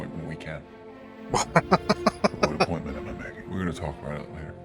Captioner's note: laughing